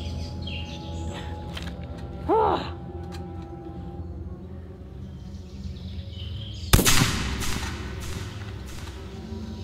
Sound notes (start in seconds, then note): 2.2 grunts; 2.5 gunshot